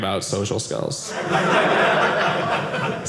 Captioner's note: audience laughing